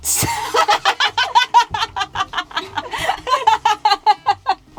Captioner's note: laughing loudly